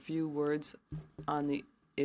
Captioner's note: speaking French